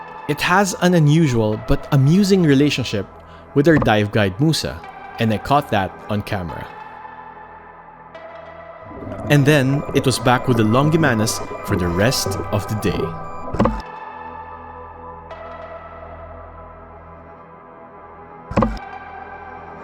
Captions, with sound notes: It has an unusual, but amusing relationship with our dive guide, Moussa, and I caught that on camera. And then it was back with the longimanus for the rest of the day. (images clunk) (upbeat music continues)